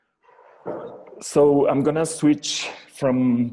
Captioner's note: dog barking